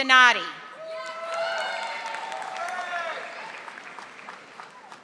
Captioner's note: audience applauding